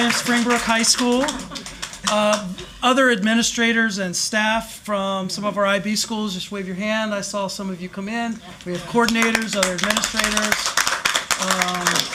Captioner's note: applause